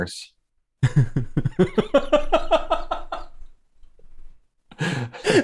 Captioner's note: laughter